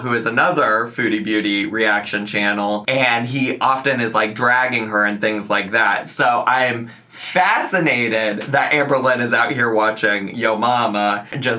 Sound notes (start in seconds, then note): none